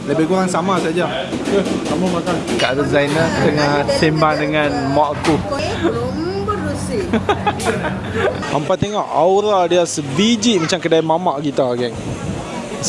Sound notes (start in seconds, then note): 5.6 laugh; 5.6 speaking Tamil